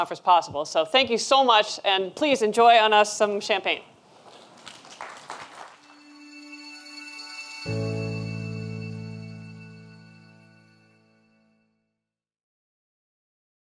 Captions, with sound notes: and please enjoy, on us, some champagne. (audience applauds) (sweeping music)